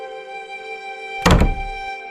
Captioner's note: door shuts